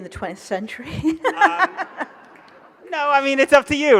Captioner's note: audience laughs